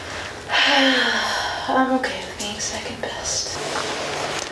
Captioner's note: sighs deeply